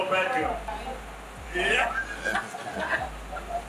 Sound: laughter

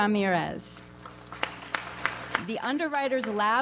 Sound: audience applauds

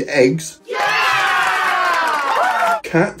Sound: people cheering and applauding

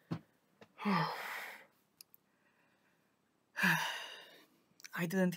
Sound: more exhaling

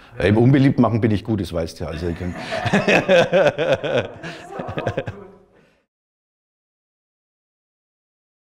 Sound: laughing

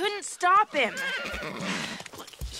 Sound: horse whinnies

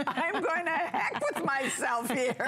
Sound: laughter

